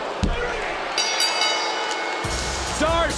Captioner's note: bell ringing